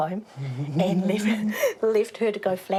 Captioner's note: laughs